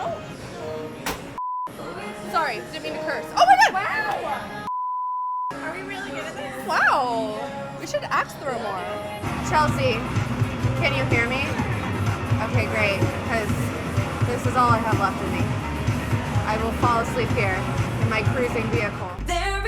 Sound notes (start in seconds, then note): 0.2 squeals; 1.4 beep